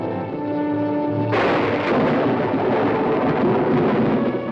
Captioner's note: thunder rumbles